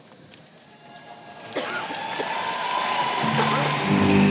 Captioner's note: applause